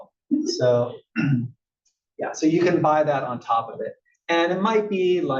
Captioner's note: cough